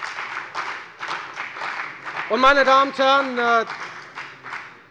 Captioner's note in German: Beifall bei der FDP